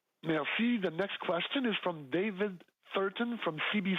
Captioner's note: speaking French